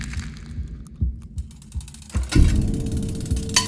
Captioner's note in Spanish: repiqueteo; repiqueteo de cuenco